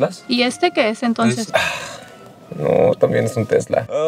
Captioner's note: sighs